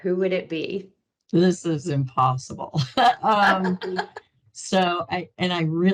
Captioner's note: laughing